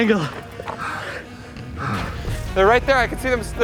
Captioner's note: gasping